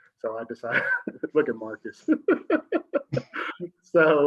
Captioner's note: laughs